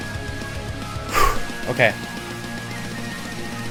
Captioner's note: exhale